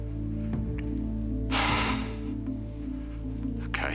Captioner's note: exhales deeply